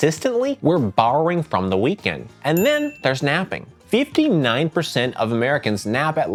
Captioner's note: bell dings